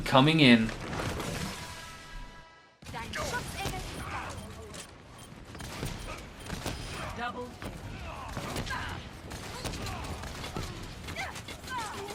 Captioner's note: in game sound